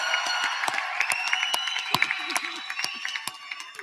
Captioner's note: applause